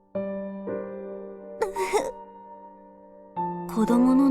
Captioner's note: sobs